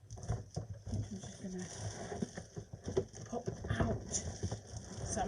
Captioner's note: rustling